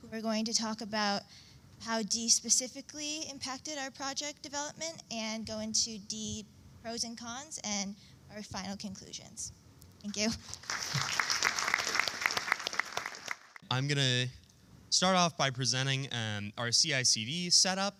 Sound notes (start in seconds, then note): 10.4 applause